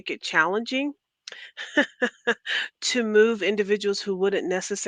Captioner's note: laughter